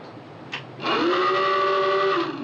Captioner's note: alarm blaring